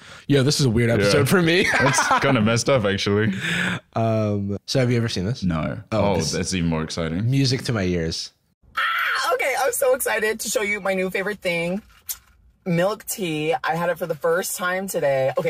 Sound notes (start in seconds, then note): 9.2 squeals